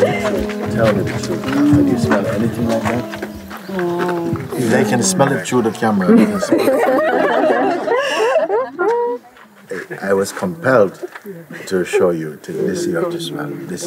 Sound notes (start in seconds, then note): 0.0 laughter; 8.8 laughter